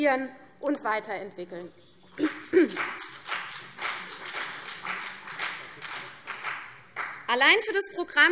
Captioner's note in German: Beifall CDU und vereinzelt BÜNDNIS 90/DIE GRÜNEN